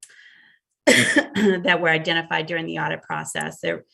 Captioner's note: coughs